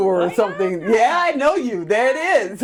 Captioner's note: laughing